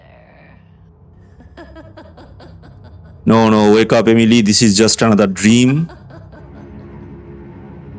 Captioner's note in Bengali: সশব্দ হাসি